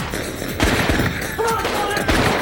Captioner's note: gunshots fire; kidnapper shouts in distance